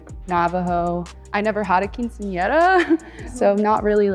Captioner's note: titters